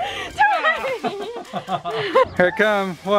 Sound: laughing

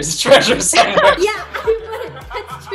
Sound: laughing

